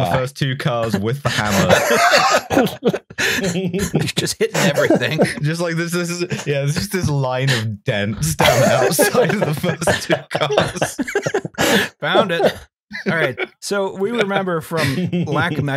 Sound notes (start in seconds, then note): 2.5 laughter; 4.2 laughing; 8.3 laughter